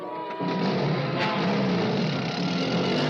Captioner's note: engine starts